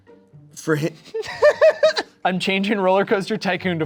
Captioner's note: laughs